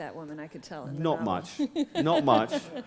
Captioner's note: chuckle